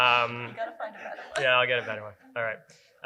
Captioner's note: laughter